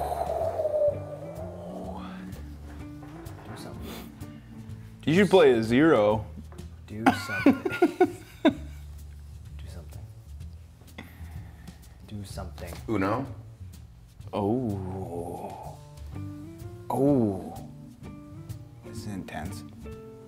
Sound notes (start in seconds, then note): 6.6 laugh